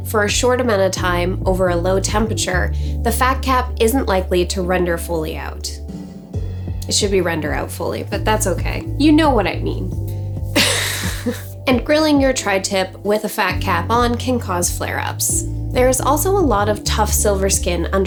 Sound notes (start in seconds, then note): 10.6 laughing